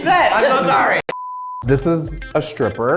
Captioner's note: beep